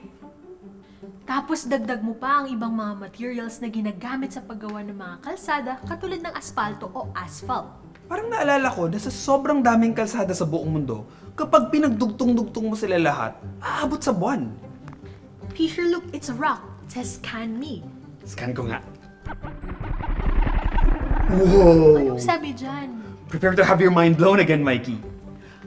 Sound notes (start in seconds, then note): 19.3 mind-blower noises